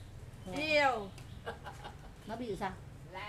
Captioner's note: laugh